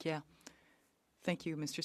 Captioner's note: speaking French